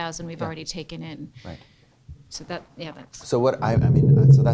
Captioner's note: voiceover